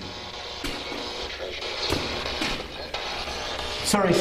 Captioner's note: static buzzing